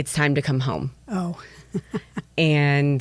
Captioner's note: chuckles